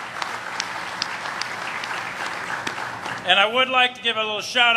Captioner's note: applause